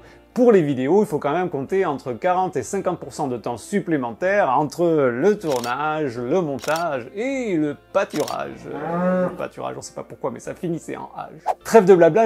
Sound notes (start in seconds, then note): 11.0 in french